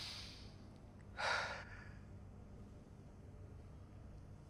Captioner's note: sighs